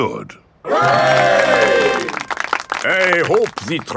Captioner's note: clapping